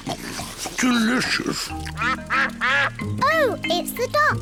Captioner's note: ducks quack